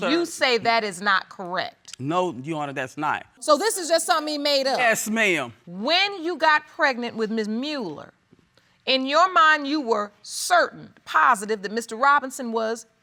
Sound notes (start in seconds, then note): none